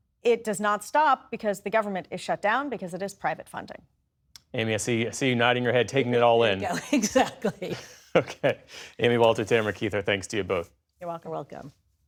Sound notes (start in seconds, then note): 6.6 laughter